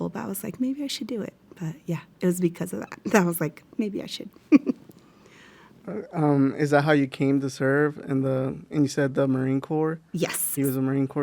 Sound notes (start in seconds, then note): 4.5 chuckles